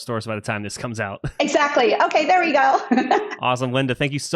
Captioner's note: laughs